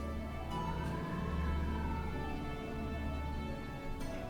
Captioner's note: wind blowing